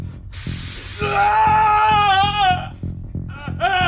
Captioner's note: heartbeat increases; screams in pain